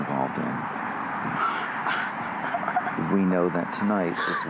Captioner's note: sobs